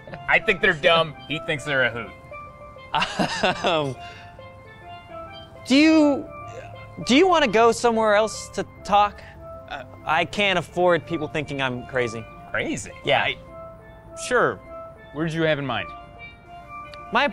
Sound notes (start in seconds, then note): 2.9 laughs